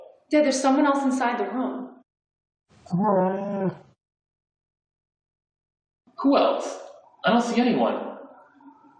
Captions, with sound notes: There's someone else inside the room. [ bear-like groan ] Who else? I don't see anyone?